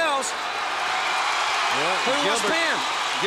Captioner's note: crowd cheering